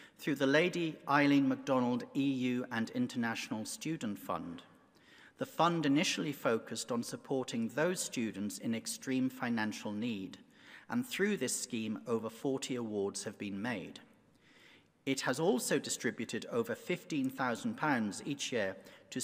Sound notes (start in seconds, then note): none